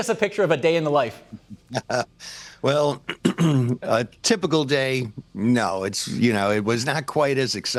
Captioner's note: chuckles